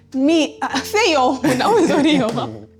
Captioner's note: laughs